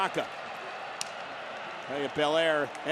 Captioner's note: hand smacks